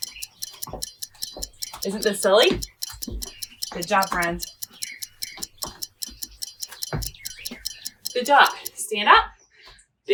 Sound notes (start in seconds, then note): 0.0 timer ticking; 0.2 feet clacking; 5.3 feet clacking; 5.3 timer ticking